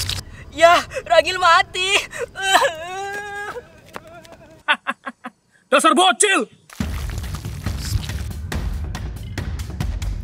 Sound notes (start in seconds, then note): 3.7 run crying; 4.1 evil laugh